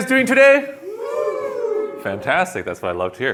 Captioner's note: cheering